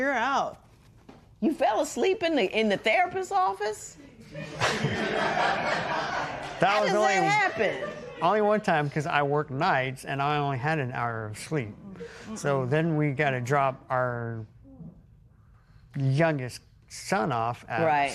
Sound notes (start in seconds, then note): 4.2 laughter